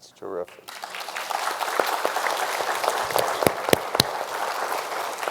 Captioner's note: everyone applauding